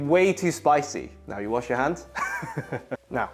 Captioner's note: chuckles